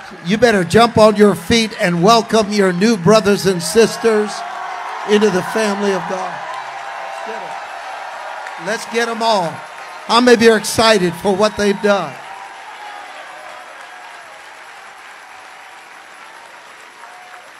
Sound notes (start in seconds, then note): 8.9 congregation cheers; 13.3 congregation applauds